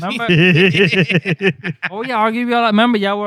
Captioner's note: laughter